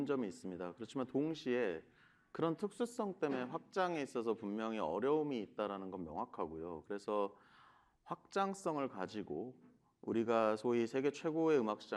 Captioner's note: speaking another language